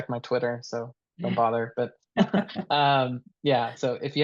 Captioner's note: laughing